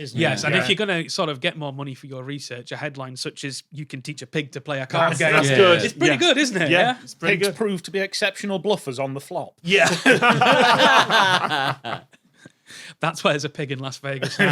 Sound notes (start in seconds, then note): 9.7 group laughing